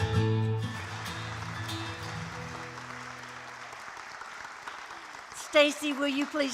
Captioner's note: applause